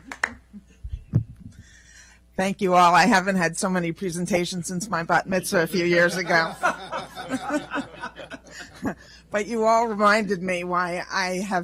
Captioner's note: clapping